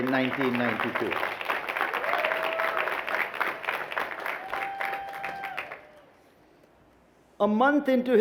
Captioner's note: applause